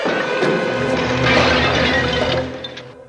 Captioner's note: crashing